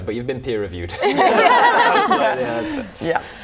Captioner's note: laughing